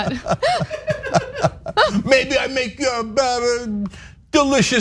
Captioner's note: laugh